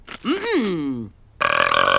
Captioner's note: belches; giggles